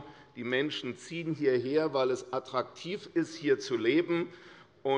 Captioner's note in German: none